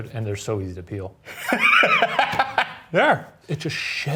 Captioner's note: Ryan laughing